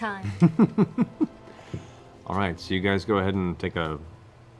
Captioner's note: laughs